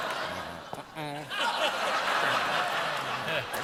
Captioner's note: laughter; applause